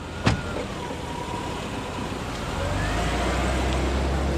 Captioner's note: ambulance